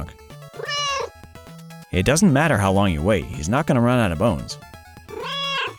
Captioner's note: meow